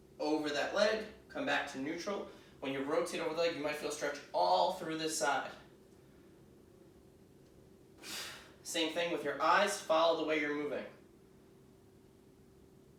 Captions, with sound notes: over that leg come back to neutral. When you rotate over the leg, you might feel stretch all through this side. [exhaling] Same thing with your eyes follow the way you're moving.